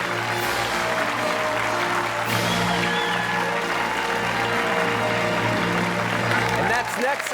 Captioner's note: fanfare playing; cheers and applause